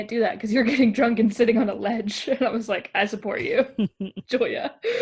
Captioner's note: both laugh